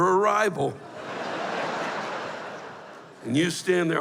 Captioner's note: laughter